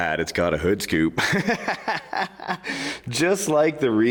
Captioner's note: laughing